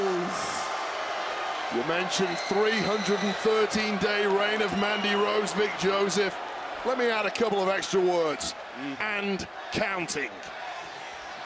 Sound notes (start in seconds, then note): 1.4 crowd cheers